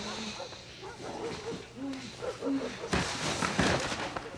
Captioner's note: both moaning; dog barking; papers rustling